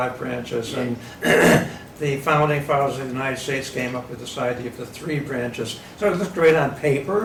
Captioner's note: coughing